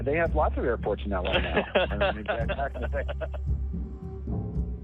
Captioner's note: laughs